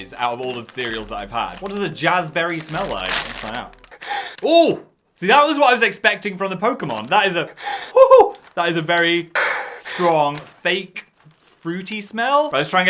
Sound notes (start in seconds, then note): 3.3 plastic bag crinkles; 4.0 sniffs bag sharply